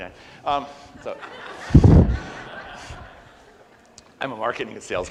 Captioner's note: audience laughs